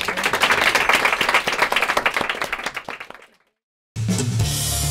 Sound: applause

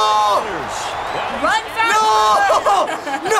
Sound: laughs

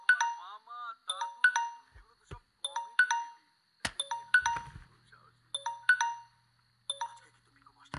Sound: phone rings

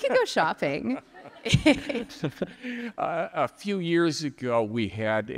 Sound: all laughing

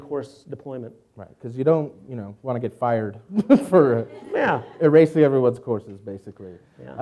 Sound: laughs

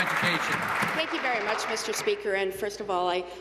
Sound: applause

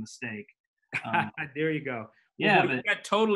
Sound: laughs

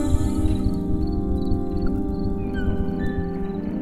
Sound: crickets chirping

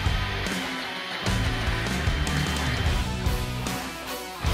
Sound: drill whirring

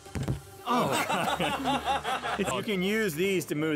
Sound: hits face on mic, laughter ensues

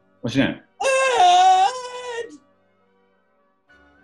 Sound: high pitched, screeching posh voice

